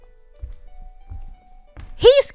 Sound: footsteps

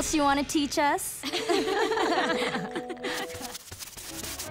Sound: laughing

